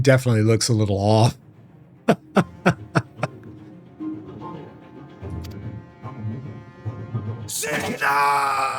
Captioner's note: laughter